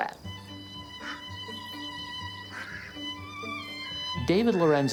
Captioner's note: duck quacking